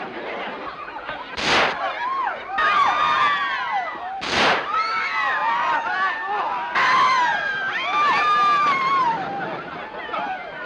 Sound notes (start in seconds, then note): 2.5 gunshot; 2.5 women screaming; 7.0 screaming continues